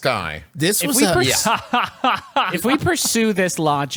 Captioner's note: laughing